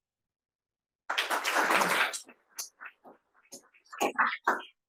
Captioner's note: applause